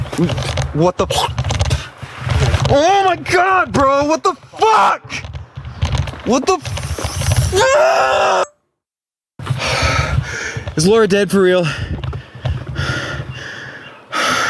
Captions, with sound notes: What the fuck? Oh my God, bro. [screaming] What the fuck? What the fuck? Is Laura dead for real?